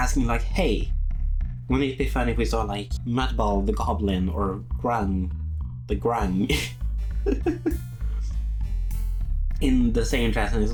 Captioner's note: laughs